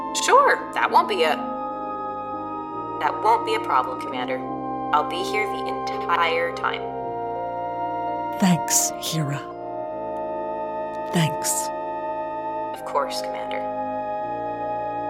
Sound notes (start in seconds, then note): none